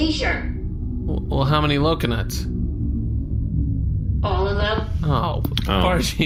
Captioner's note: powers off